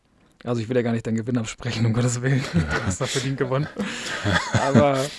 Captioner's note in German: gelächter